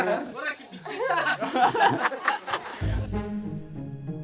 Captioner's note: laughs